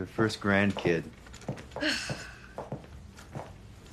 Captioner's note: sighing